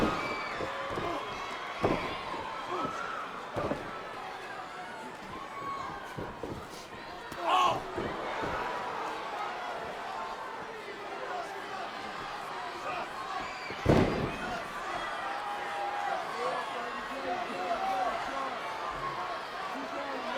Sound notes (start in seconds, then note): 8.1 grunts; 13.7 body thuds